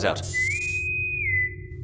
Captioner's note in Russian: свист интеркома